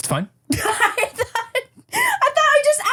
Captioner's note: laughs